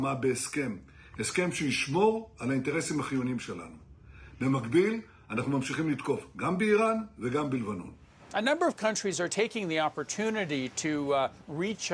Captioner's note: speaking in hebrew